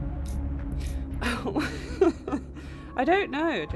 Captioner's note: laughs